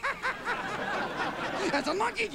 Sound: laughing

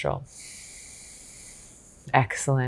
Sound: exhales gently

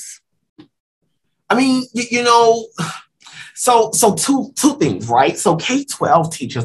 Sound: sigh

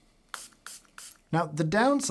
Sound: spray spritzing

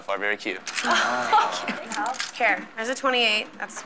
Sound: girls giggling

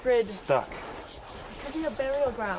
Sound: whispers hissing

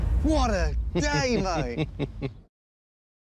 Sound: laughs

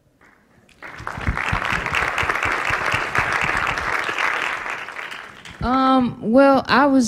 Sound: applause

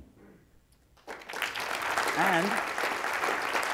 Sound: applause

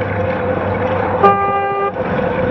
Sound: toot

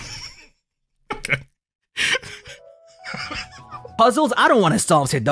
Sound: delayed explosion followed by laughter

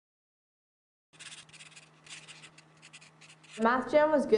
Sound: pencil writing

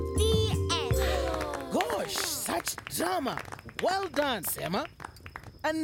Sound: applause

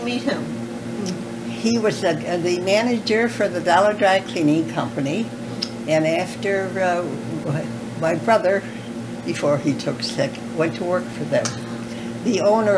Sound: laughter

